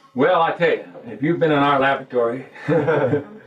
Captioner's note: laugh